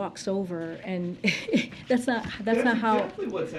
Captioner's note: laughs